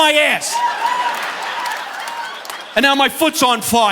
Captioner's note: audience laughing